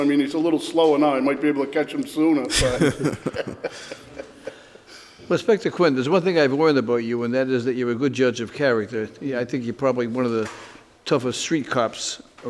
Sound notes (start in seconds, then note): 2.4 giggles; 2.4 inspector laughs